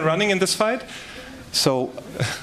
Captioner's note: laughter